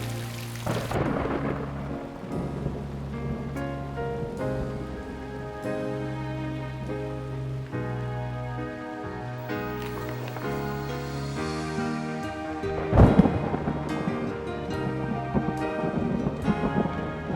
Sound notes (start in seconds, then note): 11.0 thunder rumbling